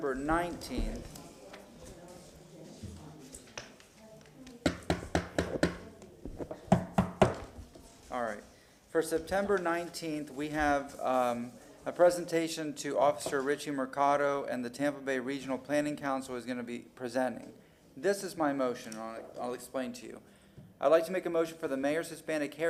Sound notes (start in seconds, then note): 10.4 gavel sounding